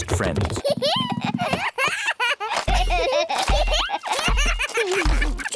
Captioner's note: both giggling